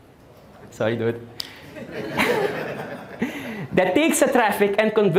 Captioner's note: audience Laughing